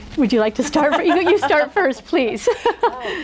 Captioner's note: laughs